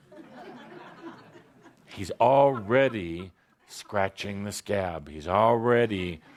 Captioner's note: laughter